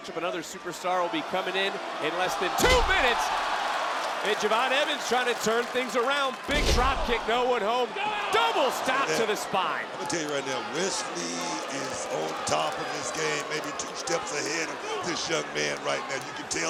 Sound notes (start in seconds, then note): 3.3 crowd roars; 7.7 shrieks